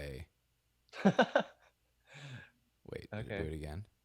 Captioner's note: laughs